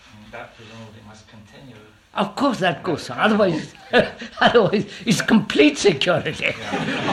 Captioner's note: laughter